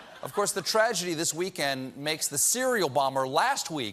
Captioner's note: laughter